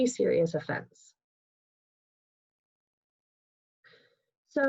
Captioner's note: pause